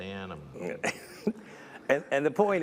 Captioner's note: chuckles